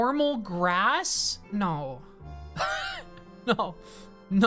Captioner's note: laughs